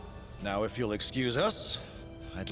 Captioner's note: none